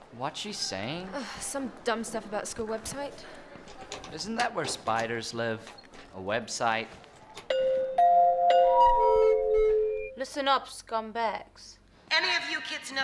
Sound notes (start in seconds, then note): 7.5 bell ringing